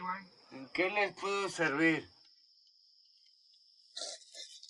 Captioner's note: foreign language